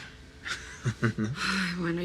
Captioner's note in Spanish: Risas